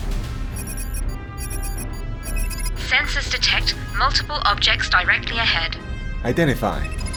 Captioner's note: computer alert noise